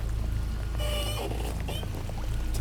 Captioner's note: squeaking